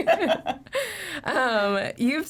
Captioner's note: laugh